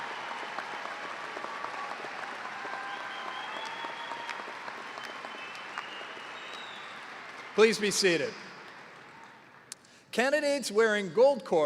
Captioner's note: cheers and applause